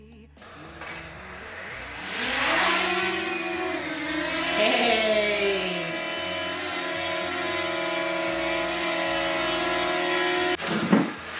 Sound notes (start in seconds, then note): 1.9 drone buzzing